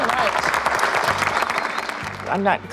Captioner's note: applause